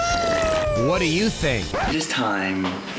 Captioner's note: cheering; record scratches